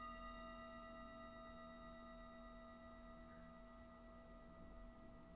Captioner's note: conclusion Meditation Bell Sounds: 3 of 3